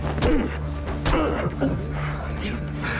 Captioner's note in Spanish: Quejidos